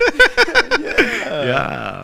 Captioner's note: laughs